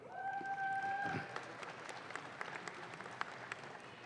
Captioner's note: audience claps